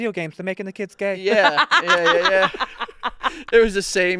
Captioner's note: laughing